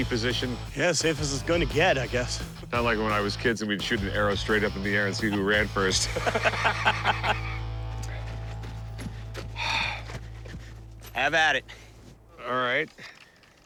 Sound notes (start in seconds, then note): 5.9 laughter; 9.0 exhales